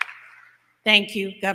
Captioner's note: applause